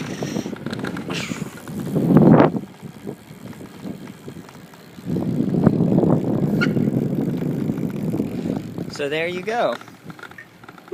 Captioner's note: wind noise